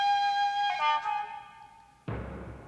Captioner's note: guns firing